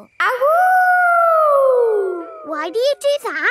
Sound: howling

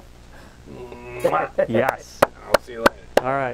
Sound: imitates lips smooching

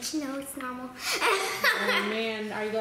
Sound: laughing

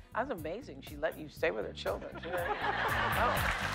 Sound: laughter; applause

